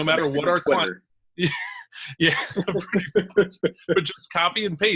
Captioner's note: both laugh